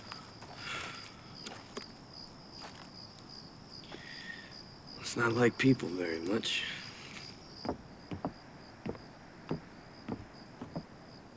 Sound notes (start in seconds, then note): 0.6 sighs